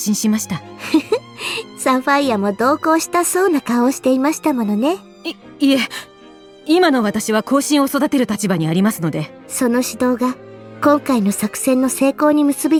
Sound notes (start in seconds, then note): 0.8 chuckle